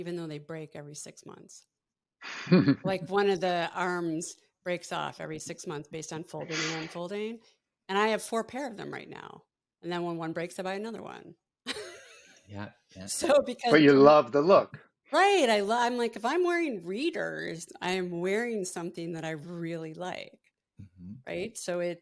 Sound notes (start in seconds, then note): 2.3 laughs; 11.7 laughs